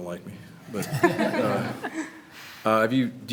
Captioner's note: everyone laughs